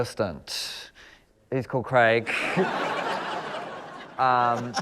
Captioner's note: laughter